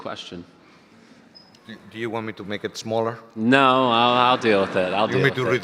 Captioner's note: audience laughter